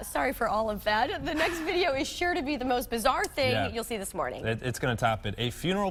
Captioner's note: laughter